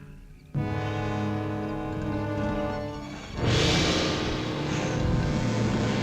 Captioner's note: ominous orchestral music; lion grunting